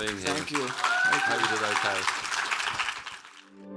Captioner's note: audience applauds and cheers